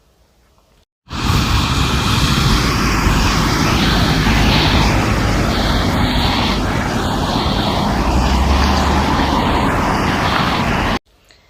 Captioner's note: traffic noise